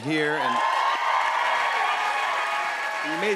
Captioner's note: cheers and applause